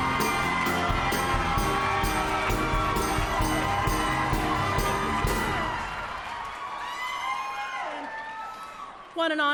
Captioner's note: applause